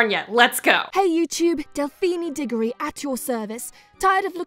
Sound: voiceover

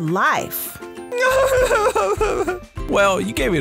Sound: Unicorse cries

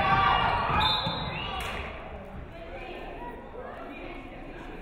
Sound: referee whistles

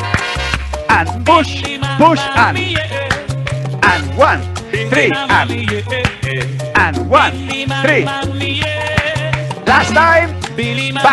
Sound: clap, clap, clap; clap, clap, clap

